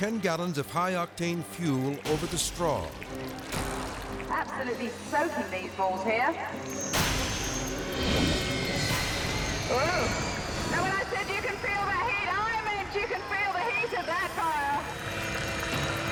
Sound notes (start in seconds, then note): 6.7 intense music; 7.9 fire whooshes